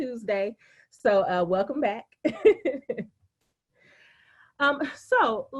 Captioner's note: laughing